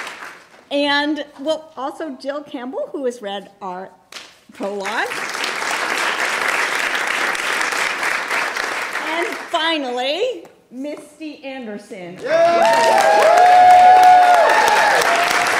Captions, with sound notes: And also Jill Campbell who has read our prologue. (applause) And finally Misty Anderson. (applause and cheering)